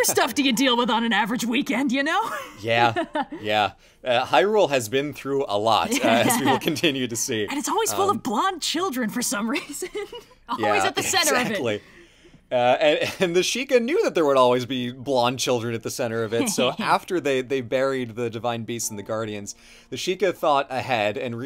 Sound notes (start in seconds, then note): 5.9 laughs; 9.7 laughs